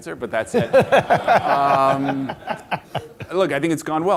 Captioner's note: laughter